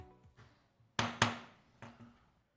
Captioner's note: gavel